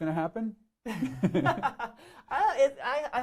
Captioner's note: both laughing